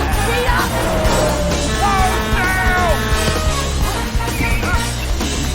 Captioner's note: horn blaring